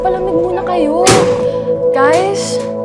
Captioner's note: door slams